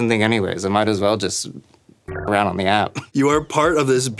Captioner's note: beep